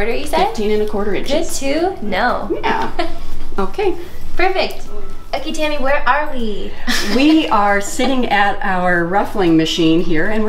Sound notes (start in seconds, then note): 6.9 laughing